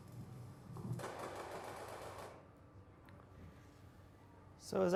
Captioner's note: gun shots